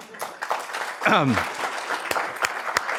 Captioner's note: audience clapping